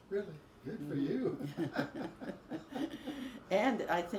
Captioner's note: both laugh